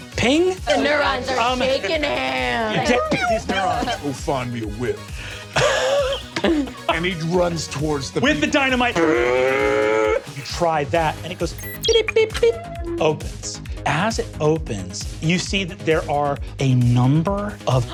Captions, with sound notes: - Ping? - And they're shaking hands. - Go find me a whip. And he runs towards the people. - With the dynamite. (mimics engine revving) You try that, and it goes... (beeping) Opens. As it opens, you see that there are a number of-